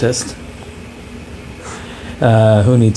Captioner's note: giggles